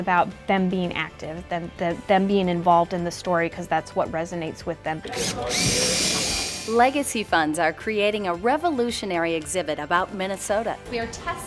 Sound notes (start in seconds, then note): 5.0 drill